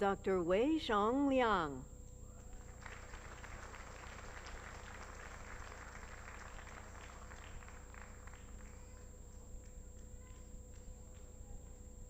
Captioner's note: applause